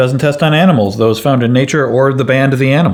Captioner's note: none